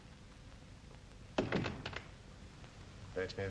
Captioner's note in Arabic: يغلق الباب